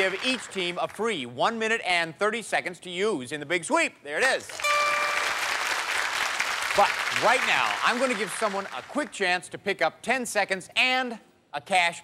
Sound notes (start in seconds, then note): 4.4 applause